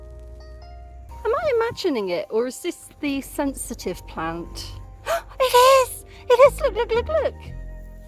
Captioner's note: gasp